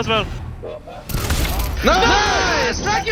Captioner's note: gun firing